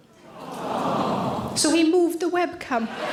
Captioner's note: audience - Awww